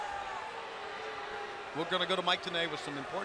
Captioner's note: crowd chatter